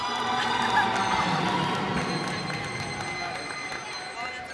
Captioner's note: cheers and applause